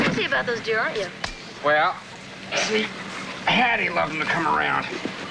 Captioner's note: grunting